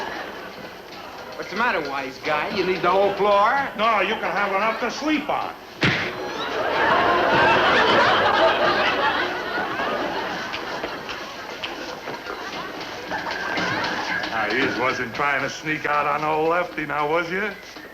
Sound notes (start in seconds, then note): 5.8 punching face